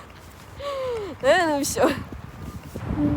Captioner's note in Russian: вздох